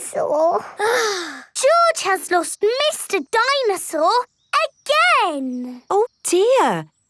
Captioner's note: sighs